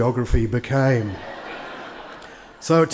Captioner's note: attendees laugh